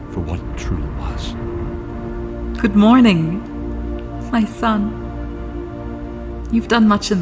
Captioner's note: happily